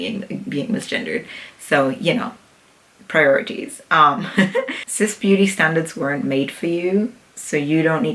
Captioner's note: laughs